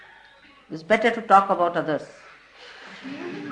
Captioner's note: laughter